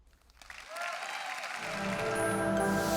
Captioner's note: audience applauds; calm music